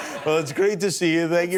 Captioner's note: laughter